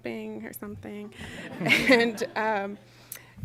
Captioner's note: laughter